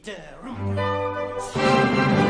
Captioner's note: mumbles melodically; cheerful orchestral music